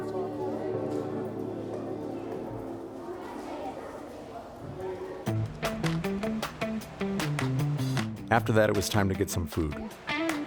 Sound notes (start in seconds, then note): 8.2 voiceover